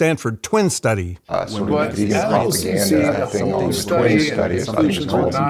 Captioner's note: group chattering